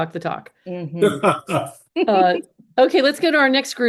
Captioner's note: laughs